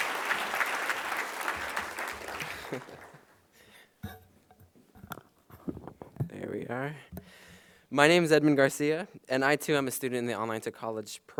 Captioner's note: applause